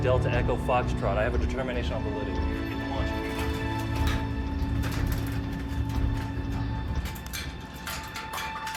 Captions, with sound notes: Delta, Echo, Foxtrot, I have a determination on the way. (metal clangs)